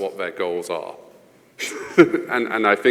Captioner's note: panel laughing